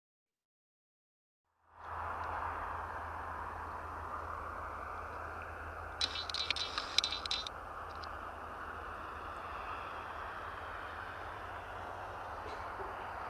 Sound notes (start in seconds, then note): 1.9 vehicles rumbling; 6.0 phone beeping; 9.0 vehicles rumbling